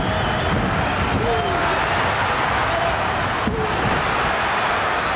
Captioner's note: audience cheering